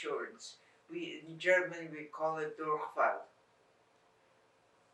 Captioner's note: german